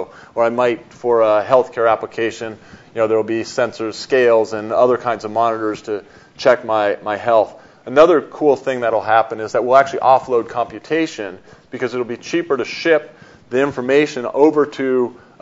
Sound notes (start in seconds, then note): none